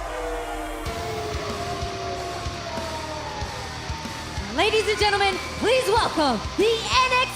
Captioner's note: cheers and applause